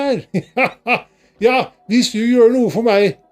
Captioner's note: Santa laughs